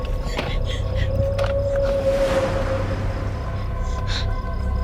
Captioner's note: Alicia panting